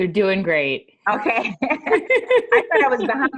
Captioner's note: laughter